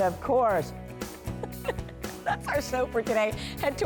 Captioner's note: laughter